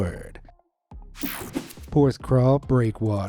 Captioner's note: screen whooshing